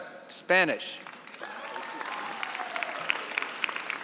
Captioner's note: applause